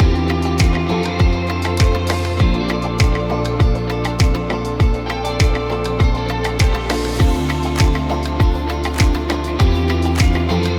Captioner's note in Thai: ปรบมือ